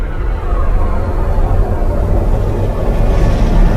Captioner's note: thunder rumbles